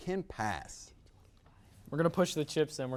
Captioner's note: whispers